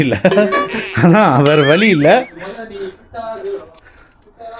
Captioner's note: laughter